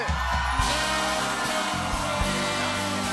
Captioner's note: cheers and applause